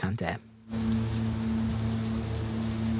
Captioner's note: sound of heavy rain with a fog horn in the distance